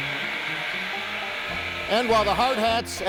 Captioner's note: machines whirring